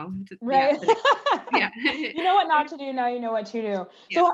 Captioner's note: laugh